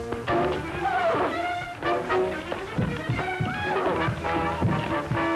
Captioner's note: neighing